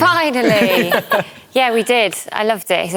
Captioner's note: laughter